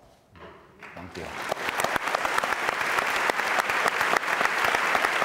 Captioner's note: audience applauds